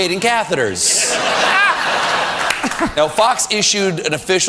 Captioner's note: audience laughter